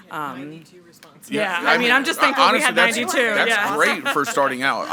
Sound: group chattering

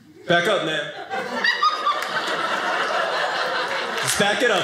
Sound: audience laughing

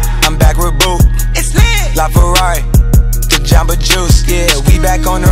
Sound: skrrt, skrrt

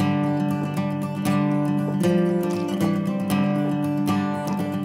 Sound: waves lapping

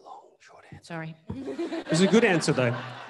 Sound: audience laughing

